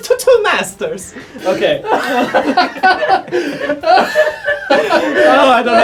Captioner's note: offscreen laughing